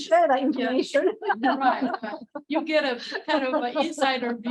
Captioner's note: laughter